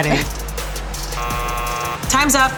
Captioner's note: buzzer buzzing